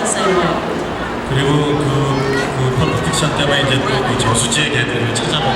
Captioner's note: speaking Korean